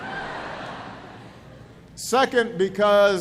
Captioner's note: laughter